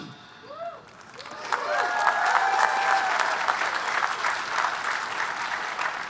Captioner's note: audience cheering and applauding